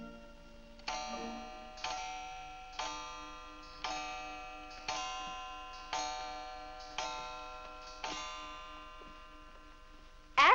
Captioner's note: clock chimes